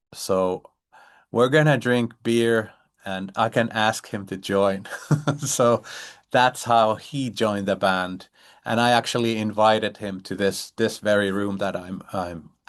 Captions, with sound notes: So we're going to drink beer, and I can ask him to join." [laughs] So that's how he joined the band, and I actually invited him to this very room that I'm